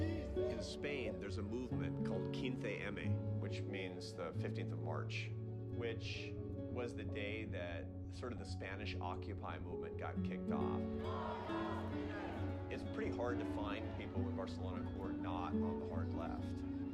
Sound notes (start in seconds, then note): 1.9 speaking foreign language; 10.8 crowd chanting